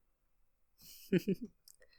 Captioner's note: chuckles softly